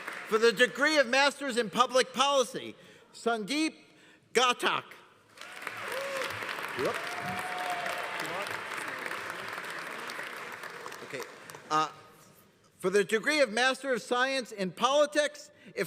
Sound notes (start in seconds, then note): 5.3 audience applauding; 5.4 audience cheering